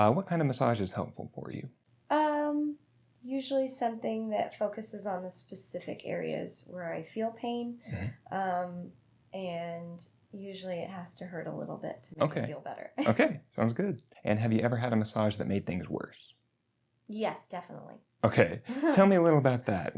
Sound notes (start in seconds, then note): 13.0 laughs; 18.4 laughs